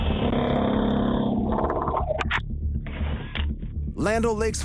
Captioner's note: whirring